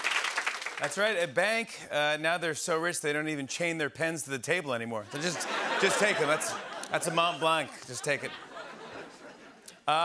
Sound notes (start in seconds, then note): 5.0 laughter